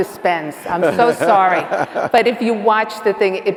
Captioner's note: laughs